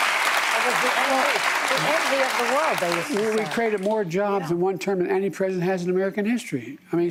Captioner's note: applause